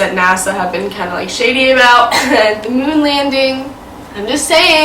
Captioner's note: coughs